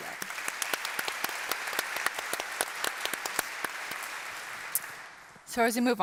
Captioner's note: applause